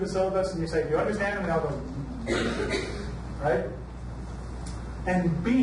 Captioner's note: hums